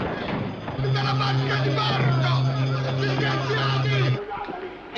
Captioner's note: Captain of SS Nyanga shouting